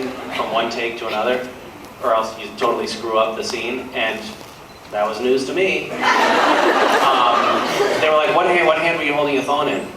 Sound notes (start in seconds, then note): 6.0 laughs